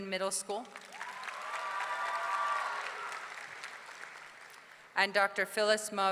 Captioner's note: audience clapping; audience cheering